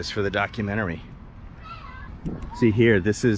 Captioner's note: street noise